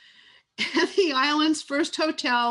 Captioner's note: laughs